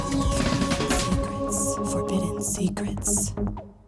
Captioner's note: lady whispering "secrets"; lady whispering "Forbidden Secrets"